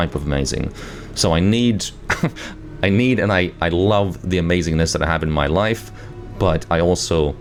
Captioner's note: chuckles